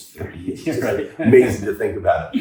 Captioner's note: laughing